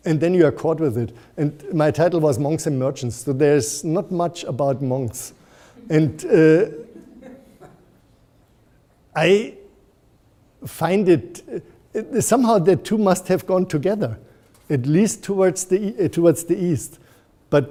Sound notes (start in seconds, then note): 5.8 audience chuckles